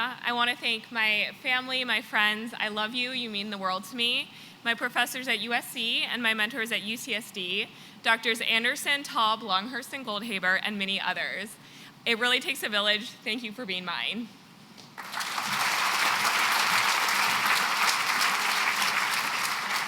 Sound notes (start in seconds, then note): 14.9 applause